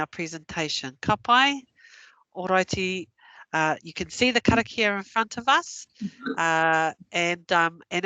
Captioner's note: non-english